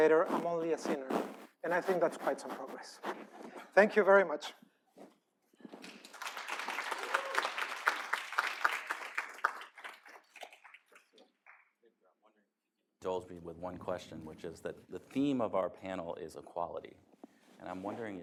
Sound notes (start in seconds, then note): 9.5 applause